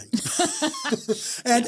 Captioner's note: both laugh